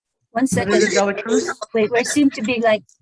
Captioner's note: murmurs